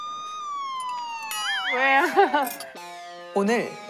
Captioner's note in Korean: 갑자기 울리는 사이렌???